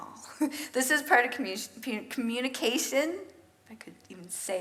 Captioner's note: chuckles; stutters